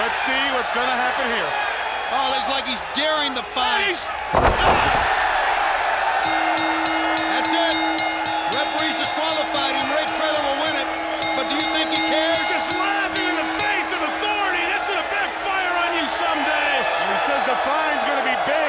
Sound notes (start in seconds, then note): 5.2 crowd cheering; 6.6 bell ringing